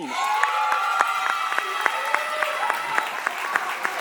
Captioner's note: audience applauding